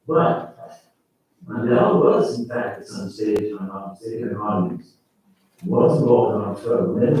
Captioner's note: faintly speaking